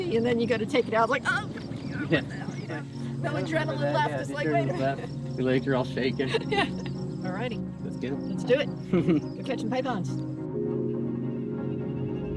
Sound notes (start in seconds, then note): 0.8 chuckles; 1.9 struggles; 6.5 laughter